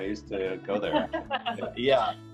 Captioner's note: laughs